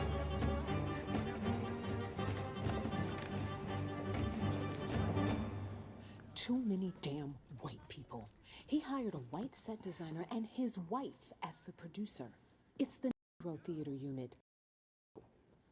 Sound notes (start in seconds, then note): 0.0 indistinct chatter